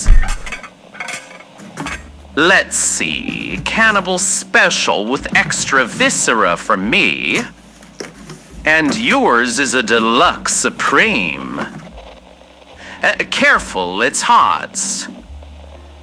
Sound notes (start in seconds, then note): 2.2 Alastor opens the boxes fx